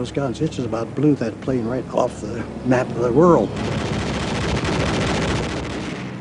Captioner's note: machine gun fire